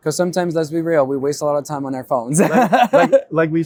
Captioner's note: laughs